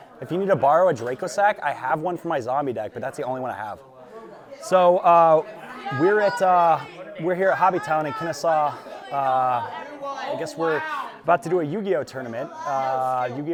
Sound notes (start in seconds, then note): 5.0 players loudly talking; 9.3 players shouting